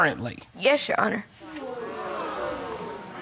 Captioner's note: audience gasps